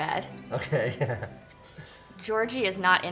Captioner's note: laughs